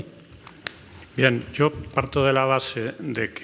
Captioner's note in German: spanisch